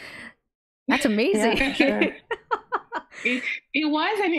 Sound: laughs

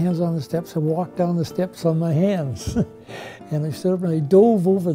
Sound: laughs

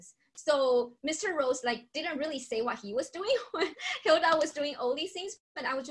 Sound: laughter

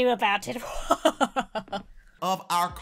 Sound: fakes evil laugh

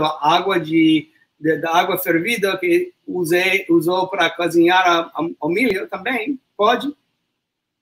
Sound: speaks portuguese

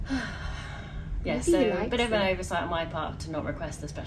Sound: sighs

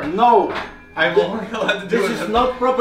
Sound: giggle

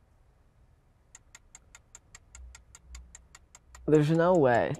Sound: clock ticking

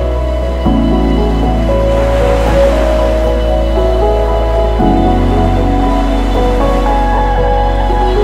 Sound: ocean wave sounds

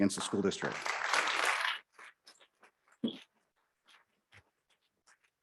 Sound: audience clapping

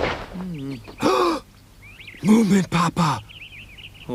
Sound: loud gasp

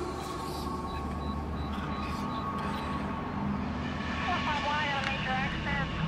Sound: ghostly whispering; faint police radio chattering

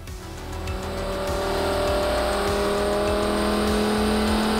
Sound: engine revving

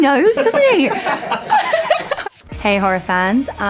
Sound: laughter

